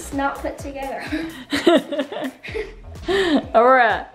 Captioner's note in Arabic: يضحك